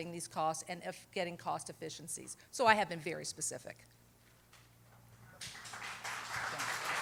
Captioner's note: applause